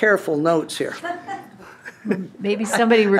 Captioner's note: laughter